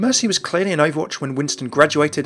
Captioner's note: voiceover